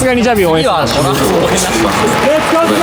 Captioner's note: laughs